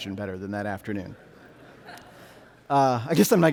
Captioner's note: audience laughing